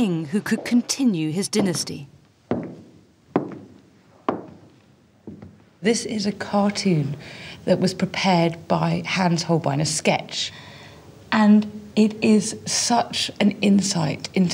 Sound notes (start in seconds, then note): 3.2 heels clack